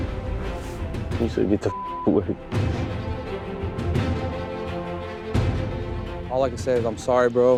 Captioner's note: beep